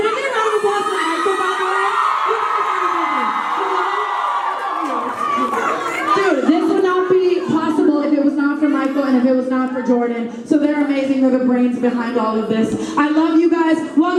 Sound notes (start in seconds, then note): 2.9 fans cheer